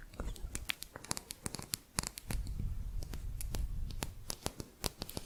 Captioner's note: quick tapping; lighter tapping on thin metal hook